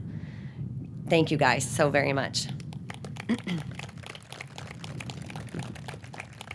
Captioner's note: audience clapping